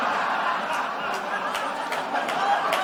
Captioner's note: laughter/Applause